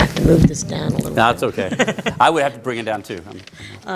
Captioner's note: laughter